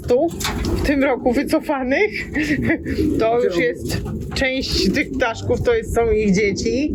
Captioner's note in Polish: śmiech